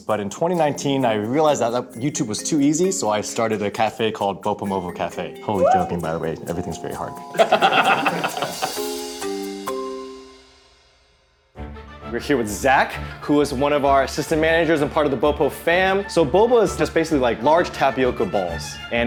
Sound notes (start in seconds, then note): 7.3 laughter; 8.9 bright music; 12.0 orchestra music begins